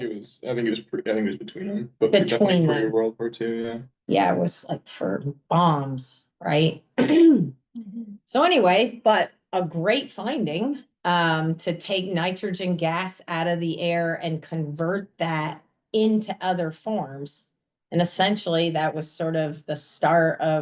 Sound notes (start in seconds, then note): 7.0 clears throat